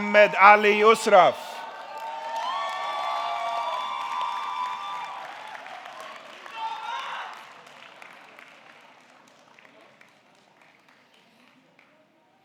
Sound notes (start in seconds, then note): 3.6 audience cheering; 3.6 audience clapping